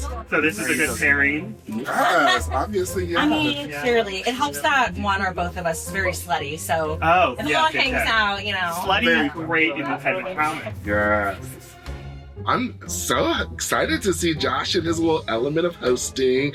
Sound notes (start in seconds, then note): 1.7 laughs